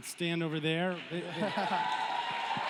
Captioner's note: cheering; laughs